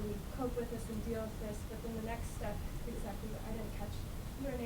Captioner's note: voice muffled